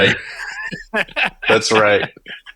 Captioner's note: laughing